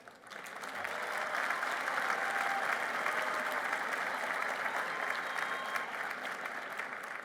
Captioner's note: applause